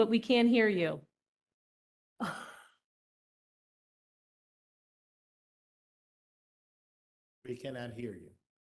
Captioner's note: laughter